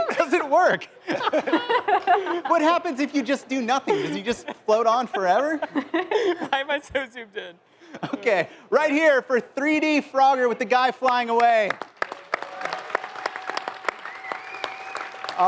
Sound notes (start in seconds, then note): 5.4 laughter